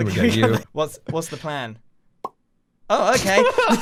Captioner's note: egg pops